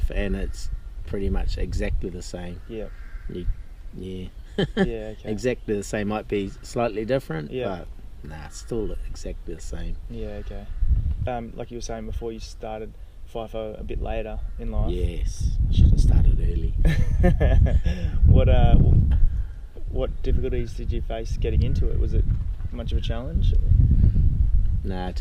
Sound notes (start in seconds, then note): 4.4 laughs; 16.9 laughs